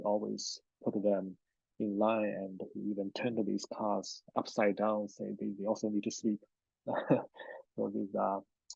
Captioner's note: laughs